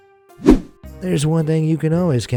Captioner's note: air whooshing